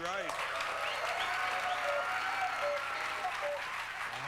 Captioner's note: cuckoos